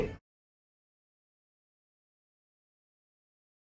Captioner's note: audio Muted